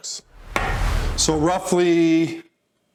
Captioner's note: graphic whooshes